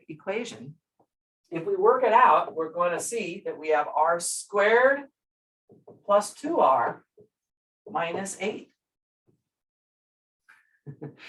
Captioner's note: brief laughter